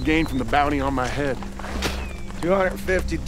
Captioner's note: spits